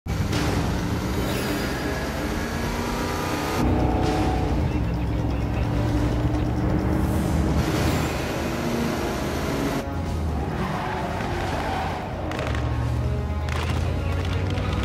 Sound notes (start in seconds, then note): 12.3 distant gunfire